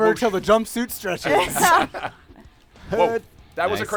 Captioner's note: laughter